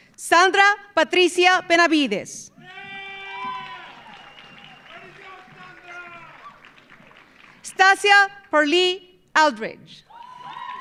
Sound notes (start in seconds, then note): 2.6 audience cheering; 2.6 audience applauding; 10.1 audience cheering; 10.2 audience applauding